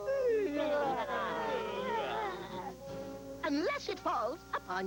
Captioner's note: yawn